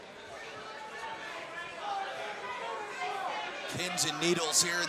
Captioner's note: crowd chatter